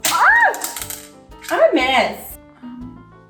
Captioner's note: makeup clattering on floor